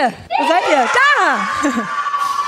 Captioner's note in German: Jubel